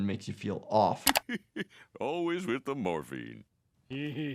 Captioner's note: laughs